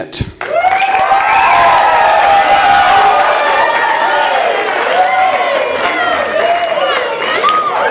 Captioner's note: audience applause